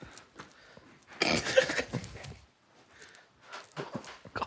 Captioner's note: group quietly laughing